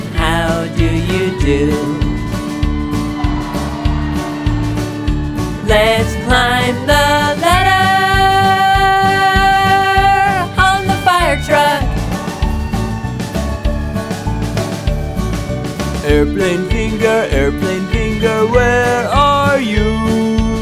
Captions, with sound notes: How do you do? Let's climb the ladder on the fire truck (vehicle sound: fire truck sirens) Airplane finger, airplane finger Where are you?